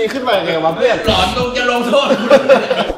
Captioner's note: laughs